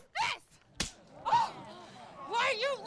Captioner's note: hand slaps; Cathryn gasps